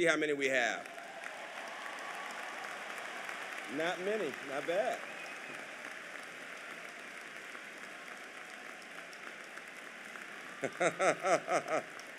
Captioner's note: applause